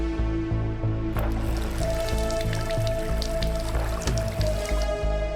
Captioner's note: water splashing